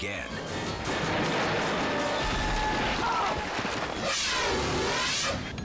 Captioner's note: screams; canopy opens